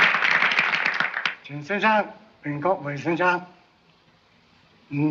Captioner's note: speaking in Chinese